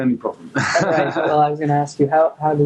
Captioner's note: laughing